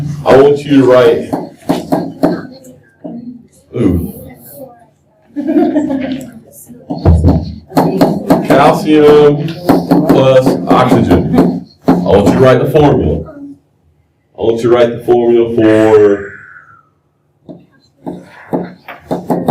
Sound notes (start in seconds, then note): 1.3 laughter